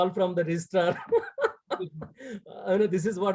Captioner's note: laughing